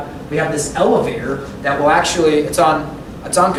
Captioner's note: none